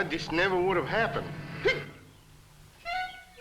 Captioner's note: hiccups